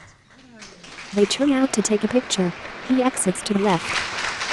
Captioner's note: applause